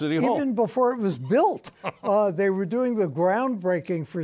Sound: chuckles

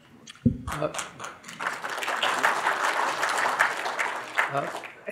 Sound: audience applauding

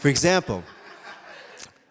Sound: audience laughing

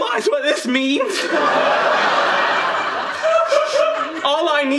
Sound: audience laughing

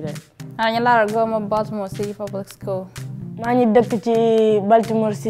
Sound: speaking foreign language

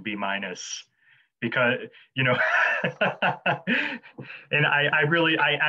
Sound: laughing

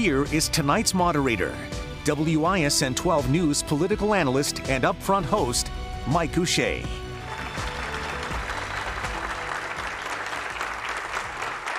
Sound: applause

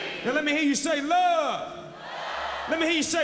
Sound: crowd

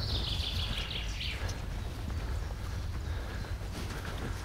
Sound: birds chirping

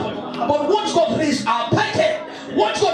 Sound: speaking in tongues

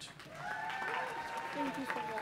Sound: audience applauding and cheering

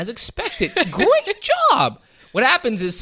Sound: laughs

